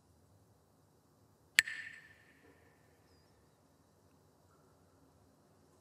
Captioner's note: Mooji clacks the sticks